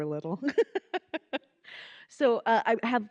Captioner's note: laughing